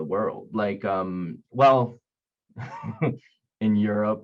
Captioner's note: chuckling